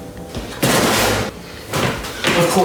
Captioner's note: loud banging; loud footsteps